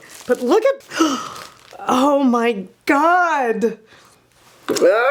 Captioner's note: gasping